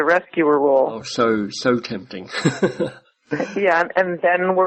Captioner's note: chuckles